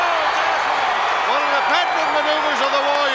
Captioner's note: crowd cheer